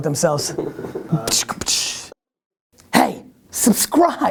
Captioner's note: mouth-made whip sounds